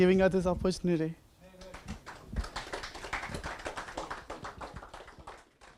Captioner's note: audience applause